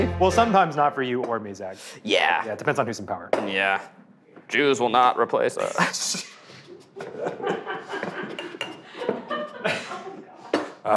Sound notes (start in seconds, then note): 5.7 producers laughing